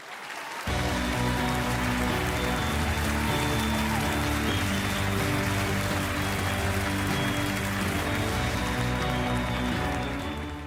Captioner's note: audience applauding